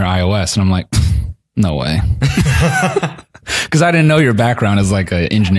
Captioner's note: both laugh